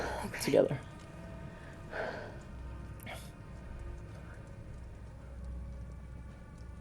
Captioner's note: fire crackling; soft tense music; fire crackling; soft tense music